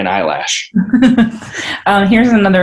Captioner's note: laughs